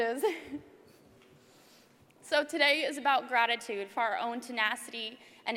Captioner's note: laugh